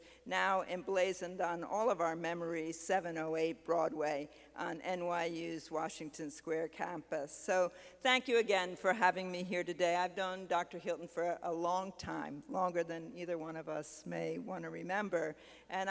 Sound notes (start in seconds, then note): none